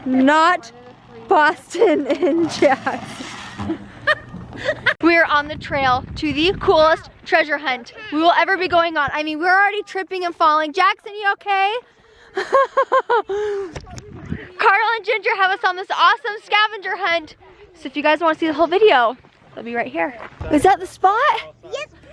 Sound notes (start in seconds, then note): 3.7 laughs; 12.2 laughs